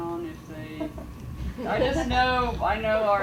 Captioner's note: audience laughing